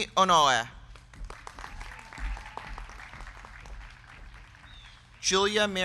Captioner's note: crowd clapping; crowd cheering